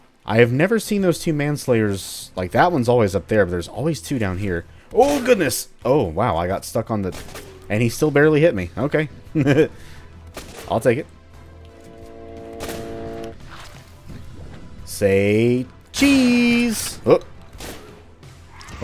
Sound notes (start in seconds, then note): 9.3 chuckles; 12.4 Railgun chargeup; 15.8 bam